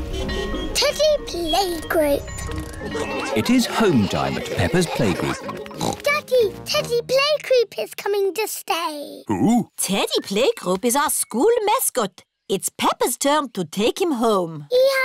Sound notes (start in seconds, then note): 5.7 oinks